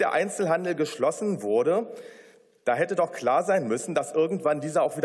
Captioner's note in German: none